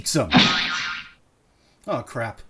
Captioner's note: POOF and BOING sound effects